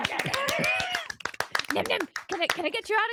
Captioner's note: group clapping